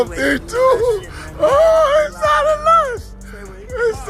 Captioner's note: laughing